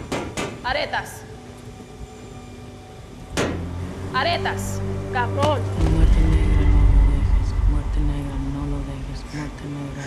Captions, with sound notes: Aretas. Aretas. [MUMBLING IN SPANISH]